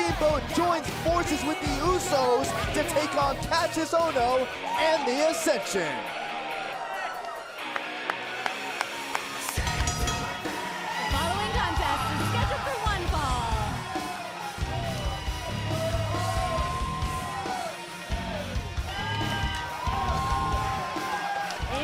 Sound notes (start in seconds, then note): 9.6 bell ringing; 17.2 crowd cheering